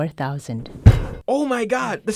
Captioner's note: head slams